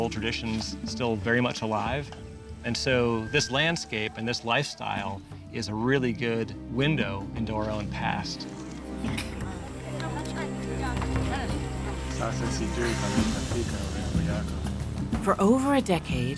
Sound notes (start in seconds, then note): 8.4 people talking in background; 11.7 speaking local language